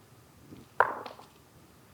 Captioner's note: dice rolling